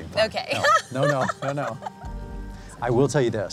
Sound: laughs

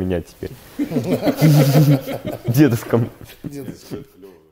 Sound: laughing

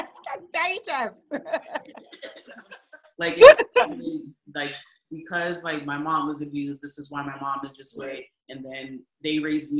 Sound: laughing

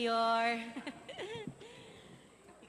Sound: chuckles

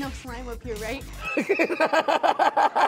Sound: laughing

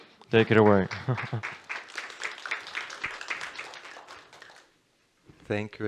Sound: applause

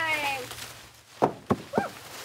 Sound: leaves rustling

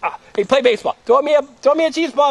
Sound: voiceover

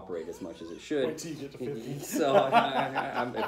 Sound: laughter

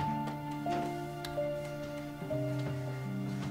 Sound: door opens

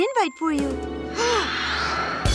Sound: exhaling

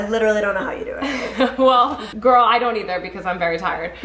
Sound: laughs

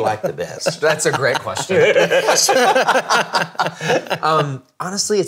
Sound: all laughing

